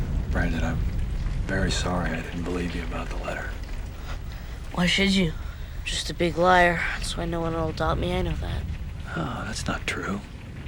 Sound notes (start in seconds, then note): none